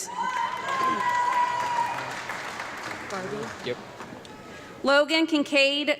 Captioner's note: audience clapping and yelling